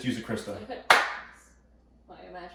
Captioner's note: hands clapping